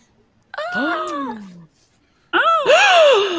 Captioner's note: gasping